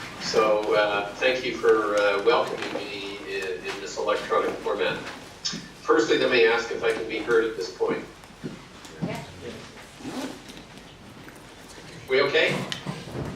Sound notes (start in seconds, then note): 9.4 audience answers affirmatively